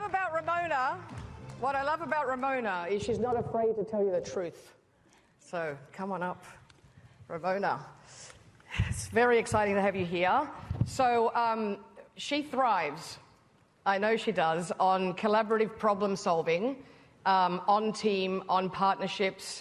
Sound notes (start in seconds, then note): 1.8 applause